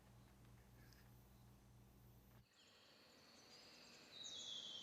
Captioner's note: birds chirping